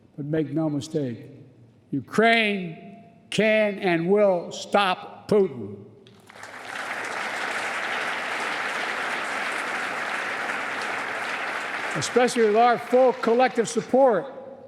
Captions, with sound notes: But make no mistake, Ukraine can and will stop Putin -- (Applause.) -- especially with our full, collective support.